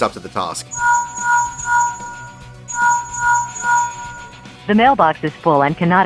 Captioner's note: linkshell ringing